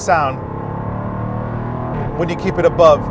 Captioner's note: engine roars